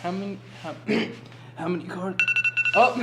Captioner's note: clears throat; phone rings